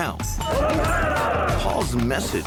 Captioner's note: men cheering